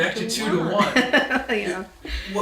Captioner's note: laughs